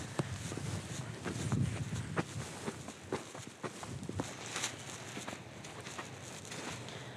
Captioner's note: footsteps